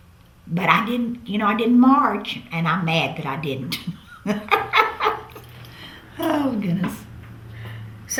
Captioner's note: laughs